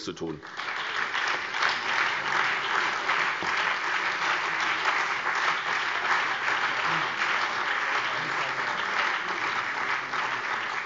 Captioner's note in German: Beifall SPD und BÜNDNIS 90/DIE GRÜNEN